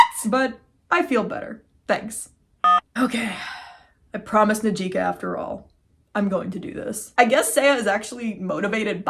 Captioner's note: beep